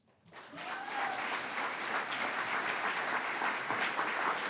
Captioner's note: audience applauds